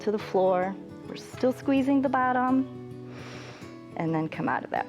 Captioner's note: inhales